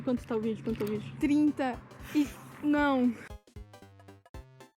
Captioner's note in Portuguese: sons de "vish ferrou"